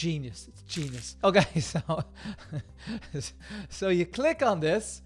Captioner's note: laughing